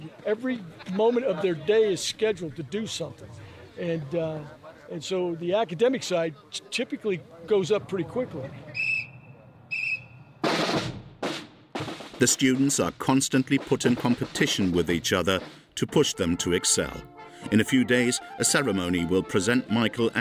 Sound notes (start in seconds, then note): 9.7 whistle blowing; 10.4 upbeat marching music